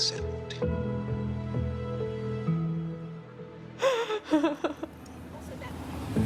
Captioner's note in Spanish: Sollozos